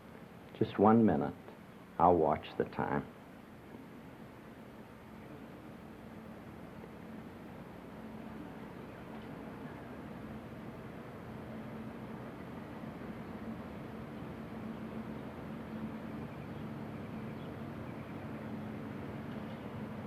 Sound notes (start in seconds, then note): none